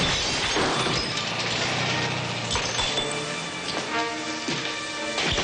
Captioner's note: breaking glass